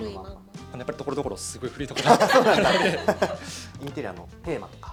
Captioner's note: laughs